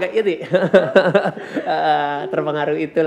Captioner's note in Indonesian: tertawa